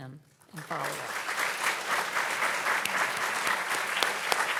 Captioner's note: audience clapping